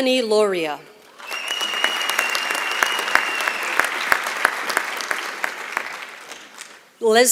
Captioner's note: applause